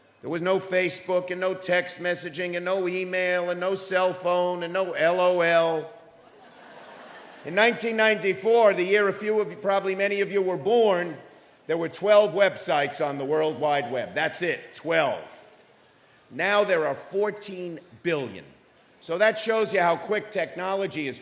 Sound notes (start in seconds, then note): 6.2 audience laughing